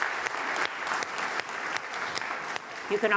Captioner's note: applause